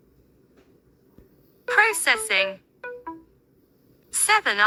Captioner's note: tonal beep 2